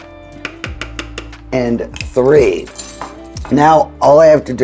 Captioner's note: soft jazz music continues; spoon tapping